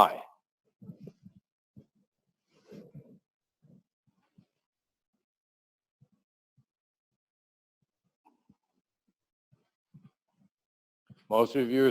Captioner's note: pause